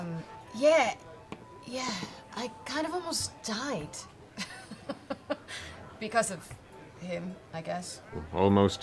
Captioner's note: laughs